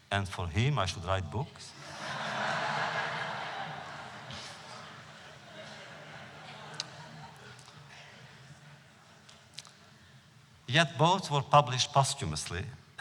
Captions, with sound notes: And for him I shall write books?” (laughter) Yet both were published posthumously,